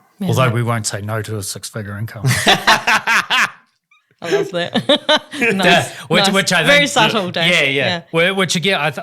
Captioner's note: laughs